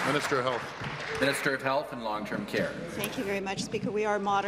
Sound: applause

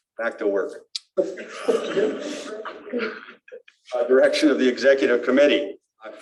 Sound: laughter

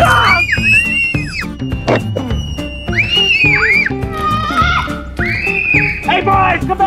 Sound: screaming

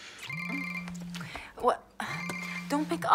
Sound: cell phone rings

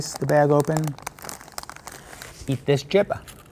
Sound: bag rattling

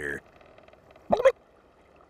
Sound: gobbling

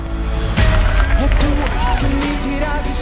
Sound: cheering

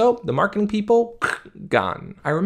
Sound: imitates guillotine crunching

